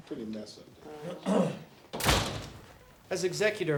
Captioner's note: attorney clears throat